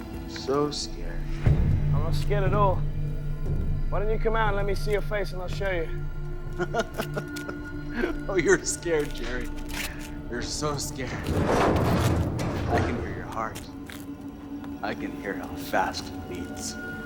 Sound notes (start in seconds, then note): 6.5 Max laughs